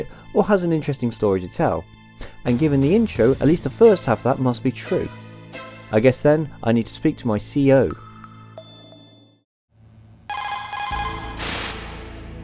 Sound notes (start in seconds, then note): 10.3 CODEC call